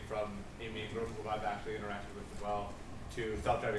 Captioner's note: speaking off mic